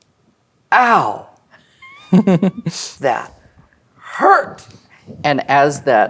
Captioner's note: players laughing